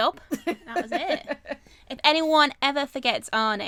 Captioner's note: laughs